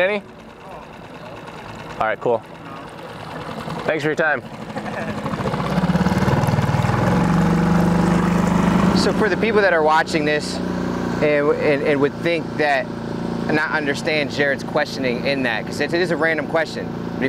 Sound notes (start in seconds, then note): 4.6 fisherman laughing; 6.0 boat engine revving